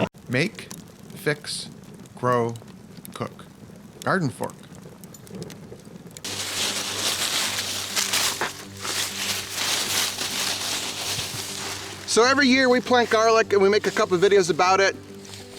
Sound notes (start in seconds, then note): 6.5 leaves rustling